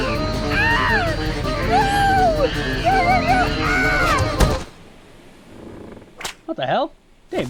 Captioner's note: Caleb is screaming in terror